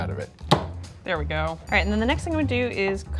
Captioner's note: knife knocks